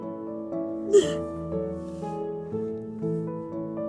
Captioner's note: crying